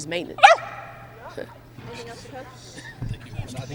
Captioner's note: dog barking; reporters laughing